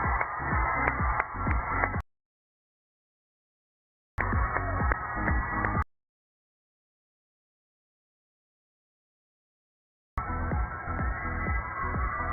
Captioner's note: cheers and applause